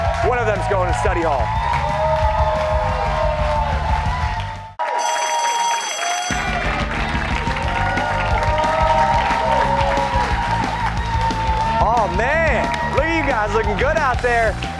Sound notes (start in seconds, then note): 7.4 bell rings; 8.6 cheers and applause